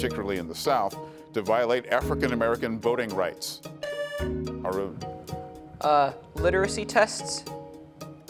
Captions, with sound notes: particularly in the south, to violate African American voting rights. (buzzer sounding) Arun. - Literacy tests?